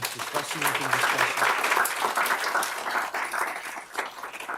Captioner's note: applause